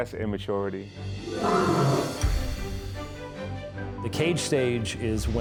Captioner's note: Rugidos de Leão